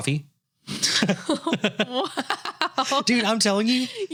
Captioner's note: both laughing